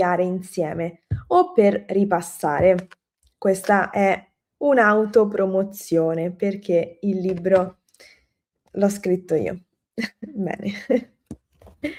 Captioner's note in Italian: risate